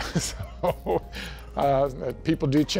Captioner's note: laughing